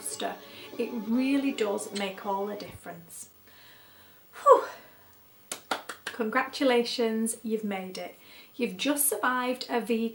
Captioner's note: deep exhale